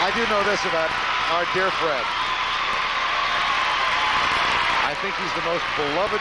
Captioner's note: applause